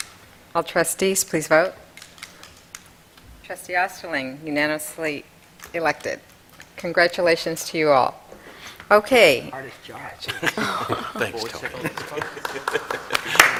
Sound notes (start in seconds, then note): 10.2 laughter; 11.4 applause